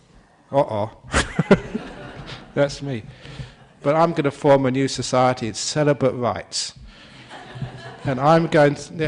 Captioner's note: laughter